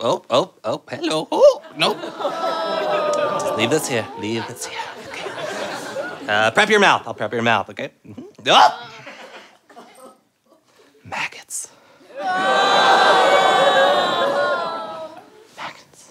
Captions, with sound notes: Ooh, ooh, ooh, hello, no. Leave this here. Leave this here. Prep your mouth! I'll prep you rmouth, okay? [shrieks] [whispered] Maggots.